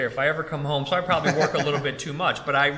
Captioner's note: laughs